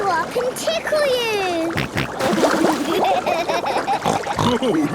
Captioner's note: snorting, giggling